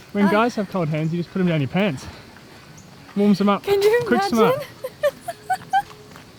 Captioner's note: laughter